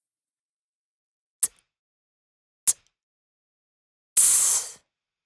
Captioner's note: beatboxing